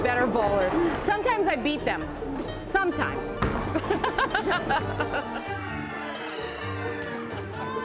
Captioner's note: laughing